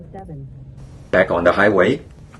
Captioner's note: GPS voice guidance